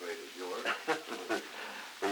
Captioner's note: Truman, laughing